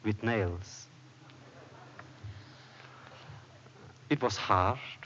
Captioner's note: laughter